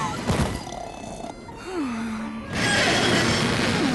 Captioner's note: snoring; creak!